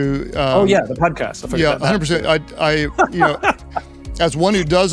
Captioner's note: laughs